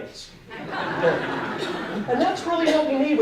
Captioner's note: audience laughing